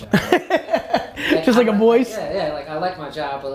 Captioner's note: laughs